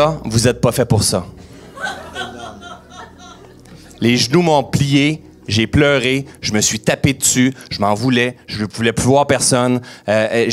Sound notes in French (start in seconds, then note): 1.6 rires